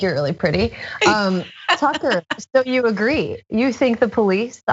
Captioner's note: laugh